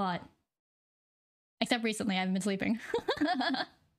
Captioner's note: laughing